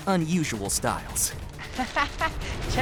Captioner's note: laughing